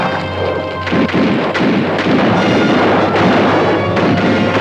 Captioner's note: guns fire